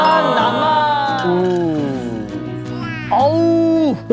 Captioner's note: gulping; om nom